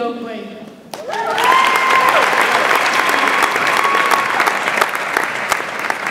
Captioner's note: audience applauds and cheers